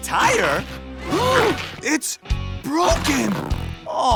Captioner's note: gasps